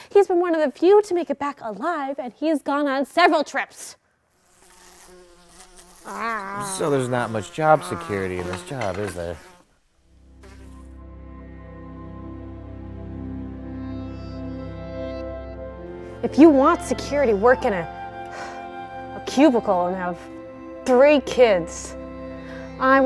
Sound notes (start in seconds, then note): 4.3 fly buzzing; 10.3 somber music